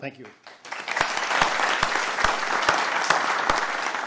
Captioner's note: applause